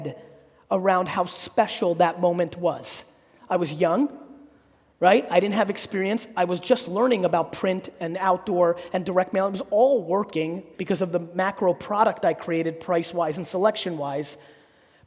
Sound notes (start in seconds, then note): none